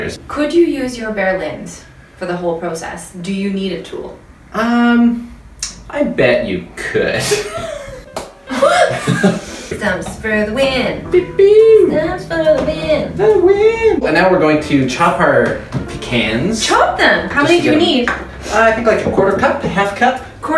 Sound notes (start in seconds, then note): 8.5 laughter